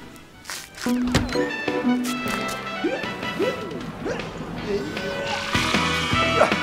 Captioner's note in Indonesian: suara televisi